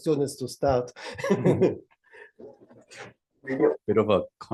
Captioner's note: laughter